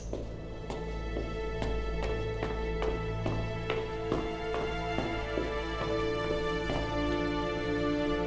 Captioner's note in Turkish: Ayak sesi